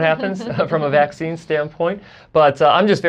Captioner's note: laughs